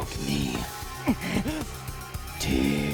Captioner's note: struggles